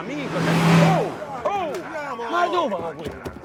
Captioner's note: vehicle passing